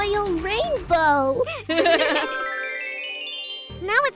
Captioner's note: laughter